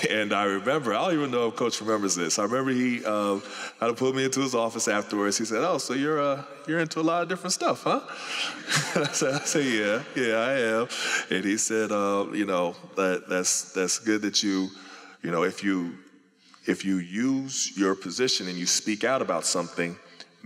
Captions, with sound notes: And I remember, I don't even know if Coach remembers this. I remember he had to pull me into his office afterwards, he said, 'Oh, so you're into a lot of different stuff, huh?' (laughter) I say, 'Yeah, yeah, I am.' And he said, 'You know, that's good that you, if you use your position and you speak out about something,